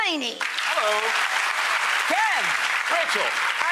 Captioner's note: audience applauds